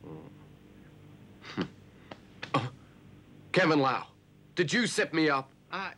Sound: chuckles

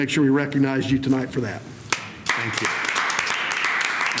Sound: applause

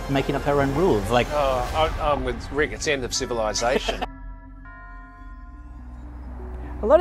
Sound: laughs

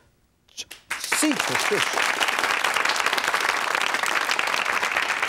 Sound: audience applauding

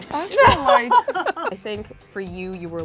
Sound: laughs

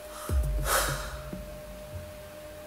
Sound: sighs

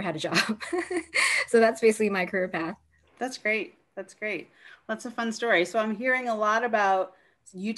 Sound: laughter

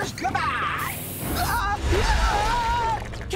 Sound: screaming

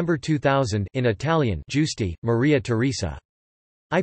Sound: in Italian

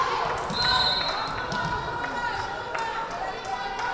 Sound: whistle blaring

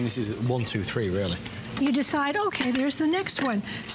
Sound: counting

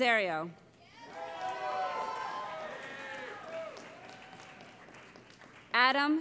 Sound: cheering

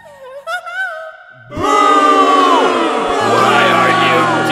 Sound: booing; booing / insults

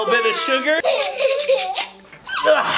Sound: sugar shaking; children laughing

